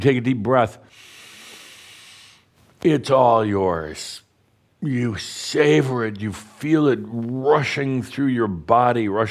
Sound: Adamus takes a deep breath

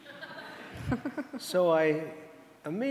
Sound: audience laughing

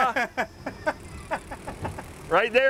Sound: laughs

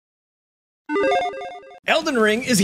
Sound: graphic blips

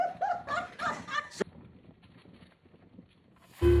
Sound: laughing

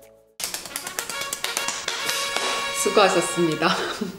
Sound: clap clap clap

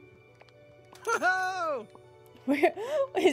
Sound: Eric Cheers

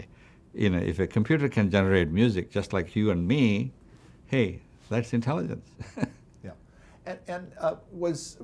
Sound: laughs

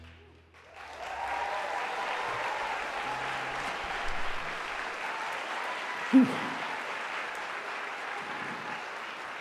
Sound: audience applause

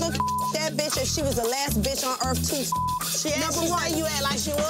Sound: beep; beep

